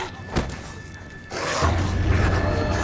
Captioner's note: growling